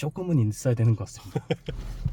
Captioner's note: laughs